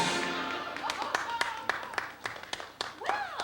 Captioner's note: applause